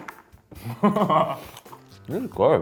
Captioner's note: laughs